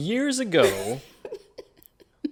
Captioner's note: laughs